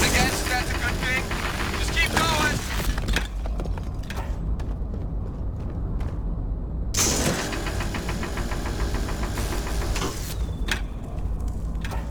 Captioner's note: laser shot